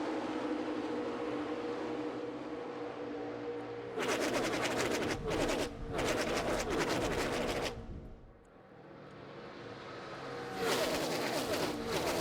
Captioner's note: engines roar